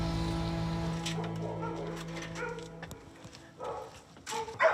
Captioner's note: dogs barking